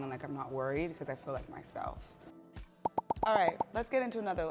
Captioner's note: seven pops